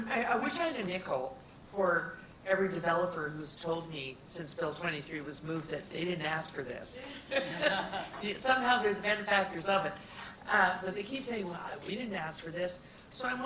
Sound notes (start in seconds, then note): 7.0 laughter